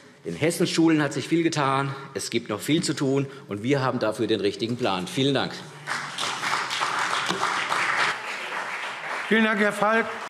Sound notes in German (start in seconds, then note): 5.8 Beifall